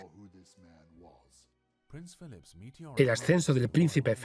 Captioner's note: voiceover